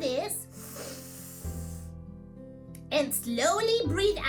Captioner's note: inhales